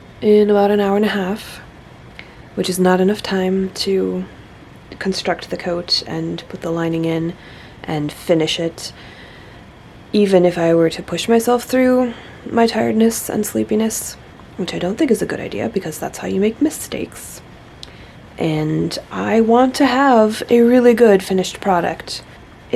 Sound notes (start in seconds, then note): none